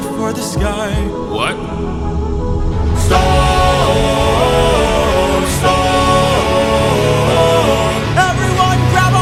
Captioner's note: storm